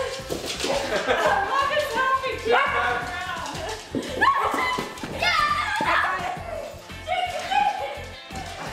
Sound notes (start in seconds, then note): 4.2 screaming